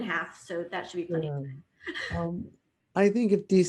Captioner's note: chuckles